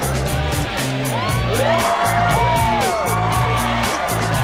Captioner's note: crowd cheers